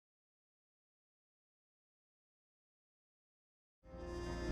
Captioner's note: silence